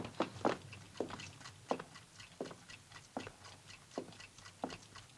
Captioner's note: clocks continue ticking